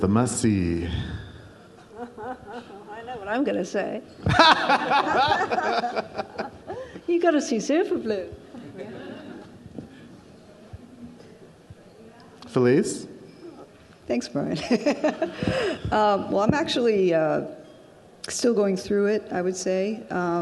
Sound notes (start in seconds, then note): 1.8 laughs; 4.2 audience laughs; 8.6 audience laughs; 15.7 laughs